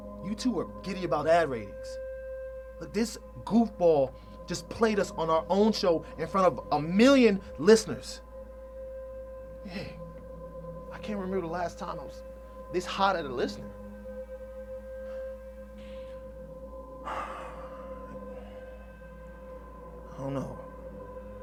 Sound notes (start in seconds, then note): 17.0 sighs